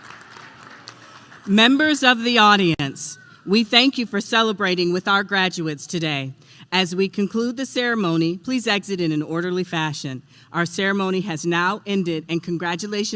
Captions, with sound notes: applause. (Applause) MEMBERS OF THE AUDIENCE, we thank you for celebrating with our graduates today. As we conclude the ceremony, please exit in an orderly fashion. Our ceremony is now ended.